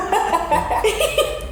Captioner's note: laughing